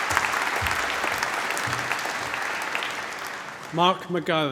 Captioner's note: applause